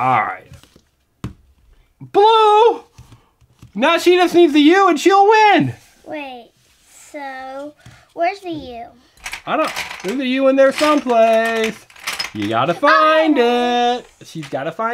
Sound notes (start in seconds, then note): 0.2 voiceover; 6.5 voiceover